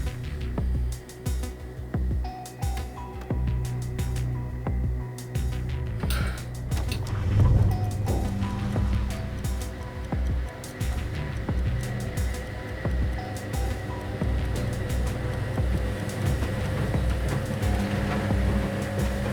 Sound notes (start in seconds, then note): 6.5 switch on, water begins; 14.5 running machine - music